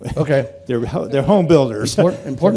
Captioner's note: laughter